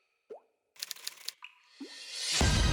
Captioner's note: water dripping; typewriter; suspense music